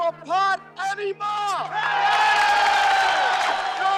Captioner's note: crowd cheering